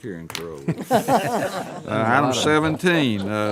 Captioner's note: laughter